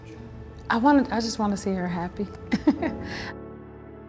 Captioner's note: laughs